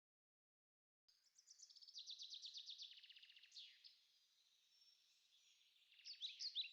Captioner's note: birds tweeting outside